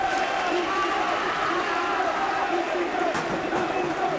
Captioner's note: audience cheering